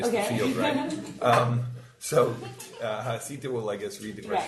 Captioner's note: group laughing